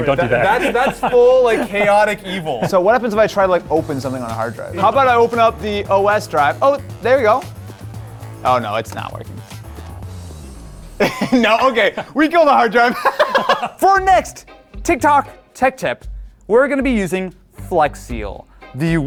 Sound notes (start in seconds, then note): 9.5 upbeat music; 12.8 laughing loudly